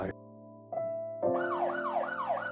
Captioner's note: ambulance sirens